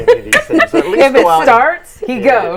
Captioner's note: laughing